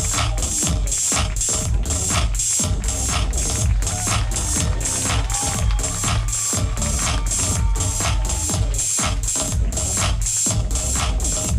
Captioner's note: applause